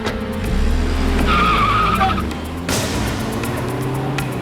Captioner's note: suspenseful music; tires screeching; suspenseful music